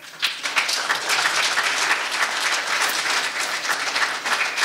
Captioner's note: audience applauding